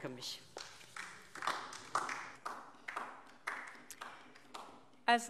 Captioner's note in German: Beifall DIE LINKE und vereinzelt SPD